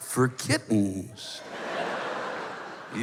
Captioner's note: laughter